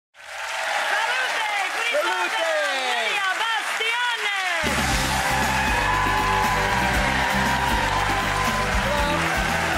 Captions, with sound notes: (applause) Salute! Salute! Please welcome Lidia Bastianich. (bright music)